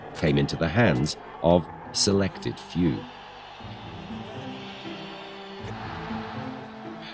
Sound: fans reacting

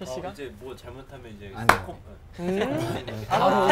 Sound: clap

